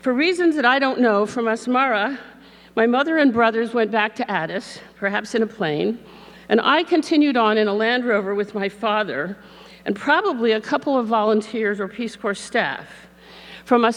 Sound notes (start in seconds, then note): none